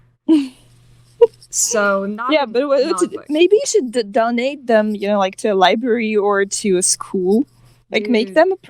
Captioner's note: laughing